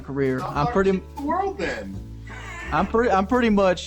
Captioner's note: all laugh